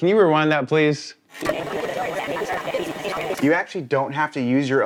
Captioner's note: audio warbling